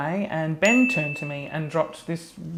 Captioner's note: bell dings